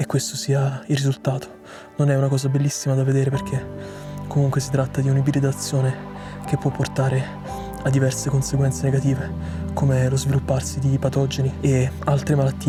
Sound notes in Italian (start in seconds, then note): 1.6 sbuffare